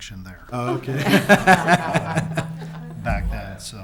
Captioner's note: laughter